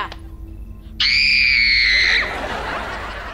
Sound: screaming

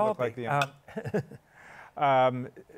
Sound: chuckles

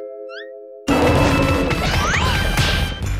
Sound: roaring

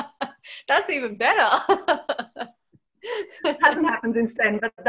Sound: laughs; laughs

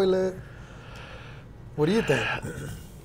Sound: breathes deeply

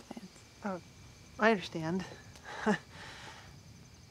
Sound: awkward laugh

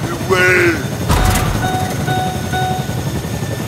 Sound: low fuel noise

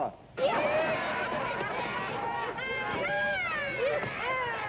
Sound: everybody laughing

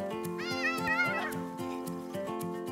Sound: kids yelling; soft guitar music

